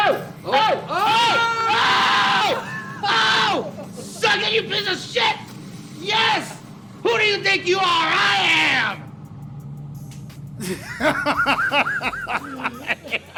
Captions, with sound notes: - Oh! - Oh, Oh! [celebrating gamer noises] Suck it you piece of shit! Yes! Who do you think you are? I am! (laughs)